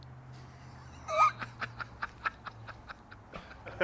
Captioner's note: laughing